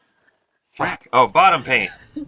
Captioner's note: laughs; duck quacks